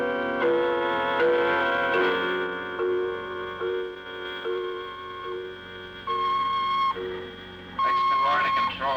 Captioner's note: phone ringing